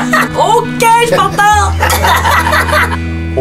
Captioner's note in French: rires